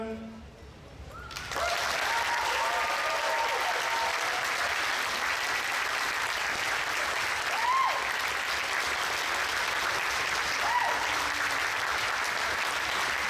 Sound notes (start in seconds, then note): 1.5 audience applauds; 1.5 audience cheers